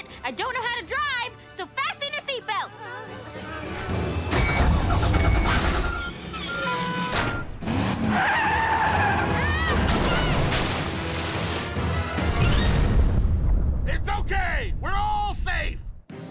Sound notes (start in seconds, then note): none